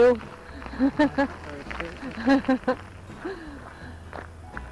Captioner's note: laughs